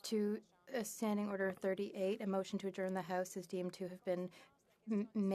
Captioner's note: speaking French